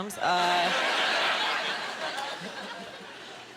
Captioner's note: laughing